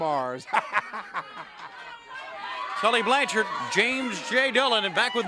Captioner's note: crowd chatter